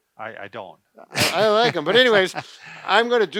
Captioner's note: laughs